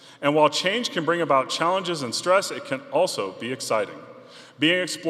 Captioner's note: none